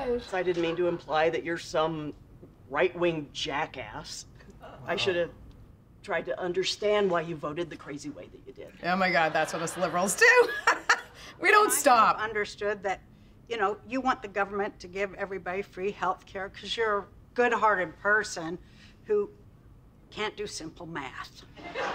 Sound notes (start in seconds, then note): 0.0 chuckles; 10.9 laughs